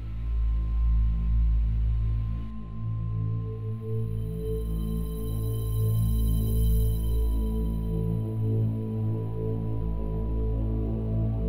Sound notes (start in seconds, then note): none